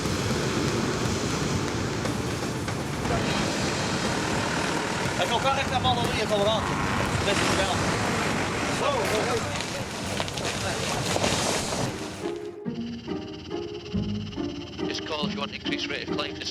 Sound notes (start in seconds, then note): 5.5 speaking in foreign language; 10.1 tree crunching; 12.2 upbeat music